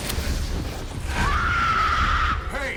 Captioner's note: screams